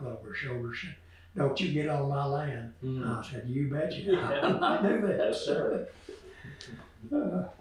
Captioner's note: laughter